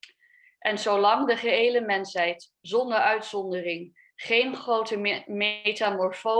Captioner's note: speaks a foreign language